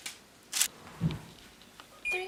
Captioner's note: beeping